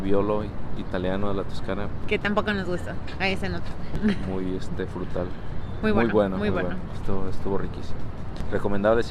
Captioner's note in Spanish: risas